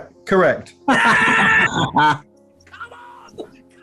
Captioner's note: laughing